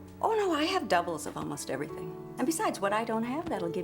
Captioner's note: none